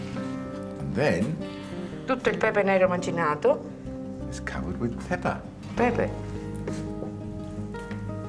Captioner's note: speaks Italian